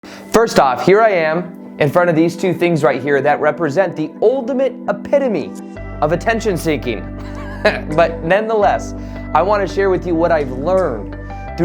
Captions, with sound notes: - First off, here I am in front of these two things right here that represent the ultimate epitome of attention seeking. (chuckles) But nonetheless, I want to share with you what I've learned